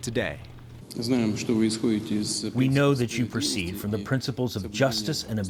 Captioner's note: through translator